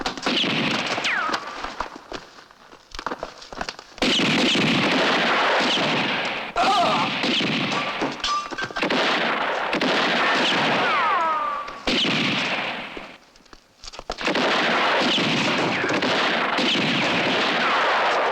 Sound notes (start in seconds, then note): 0.0 gunshot; 3.6 gunshots; 6.6 man groans